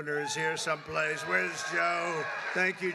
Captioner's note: applause